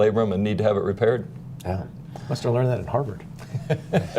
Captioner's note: laughter